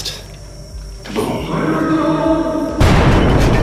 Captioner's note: man yelling; explosion